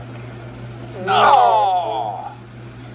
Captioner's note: players groan